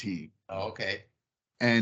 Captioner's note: laughing